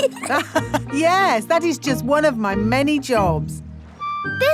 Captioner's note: laughs